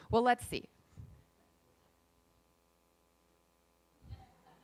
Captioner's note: laughing